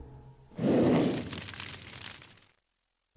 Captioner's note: sound of a burning flame is heard